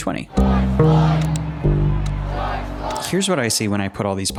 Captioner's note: crowds chanting